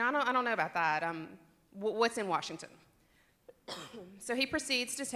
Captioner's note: cough